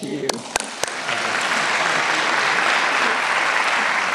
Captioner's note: applause